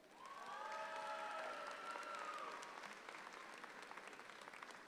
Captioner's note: audience applauds